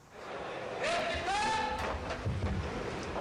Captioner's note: bailiff shouts